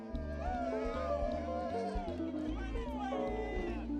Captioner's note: people cheering